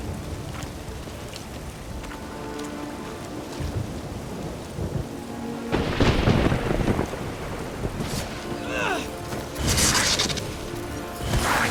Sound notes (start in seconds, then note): 5.7 thunder crashes; 9.6 electricity crackles